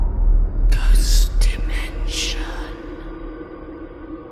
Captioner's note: creepy Voice